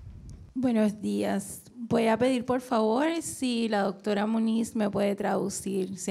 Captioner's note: speaking in foreign language